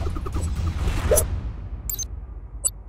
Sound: drums rumbling; air whooshing; electronics pinging

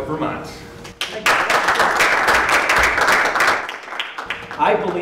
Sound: applause

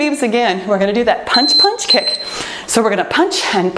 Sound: timer beeping

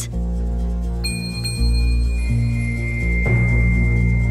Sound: stars gleaming

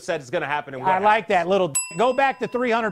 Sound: dinging

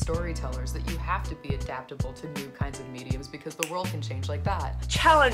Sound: snaps fingers

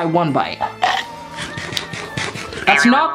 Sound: bites

